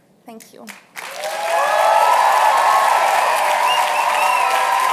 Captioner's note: cheers and applause